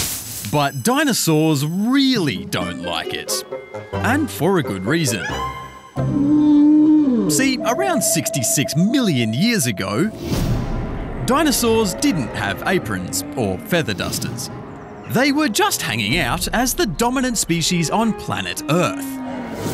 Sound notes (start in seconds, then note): 6.0 groaning